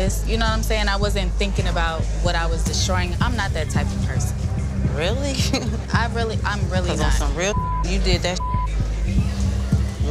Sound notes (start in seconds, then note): 5.4 scoffs; 7.0 beep